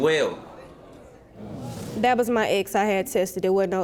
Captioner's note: audience murmuring